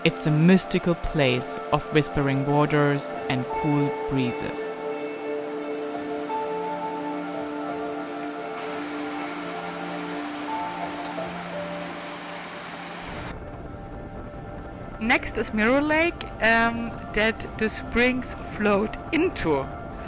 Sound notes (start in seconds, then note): 5.2 water flowing; 7.1 slow music continues